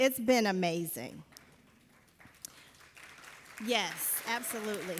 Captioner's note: audience applauding